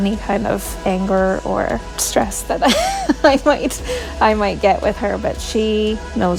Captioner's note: laughing